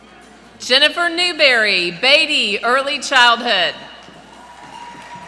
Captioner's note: applause